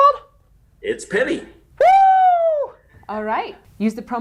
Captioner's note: exclaims